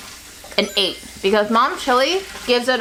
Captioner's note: chimes tinkling